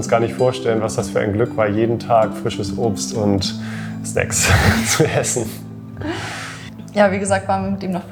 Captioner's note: haha